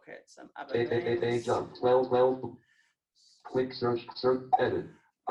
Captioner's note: JAWS speaking disjointedly